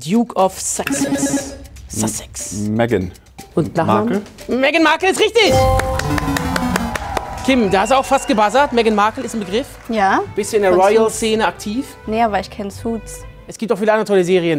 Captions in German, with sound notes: Meghan. - Und Nachname? Markle. - Meghan Markle ist richtig. (Jubel, Applaus) Kim, du hast fast gebuzzert, Meghan Markle ist ein Begriff. - Ja. Bist du in der Royalszene aktiv? Nee, aber ich kenn "Suits". - Es gibt andere tolle Serien.